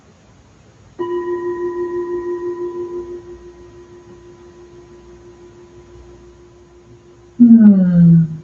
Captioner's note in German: Klang der Klangschale